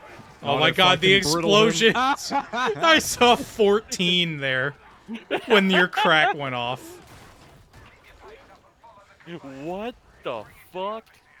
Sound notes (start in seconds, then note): 1.3 laughter; 7.7 laughter